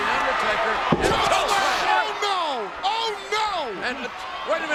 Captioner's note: overlapping chatter